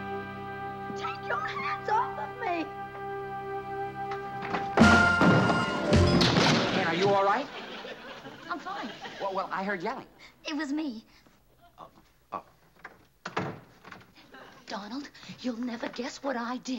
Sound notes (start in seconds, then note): 4.1 banging; 11.4 stammering